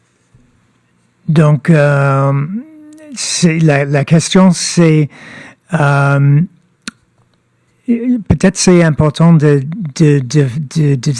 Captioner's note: speaking French